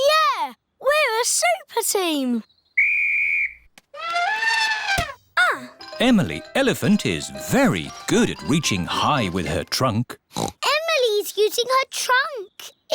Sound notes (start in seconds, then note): 2.7 blows whistle; 4.0 trumpets; 10.3 oinks